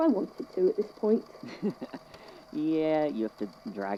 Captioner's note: laughs